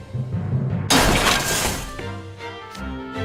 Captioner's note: crash!! Bang!!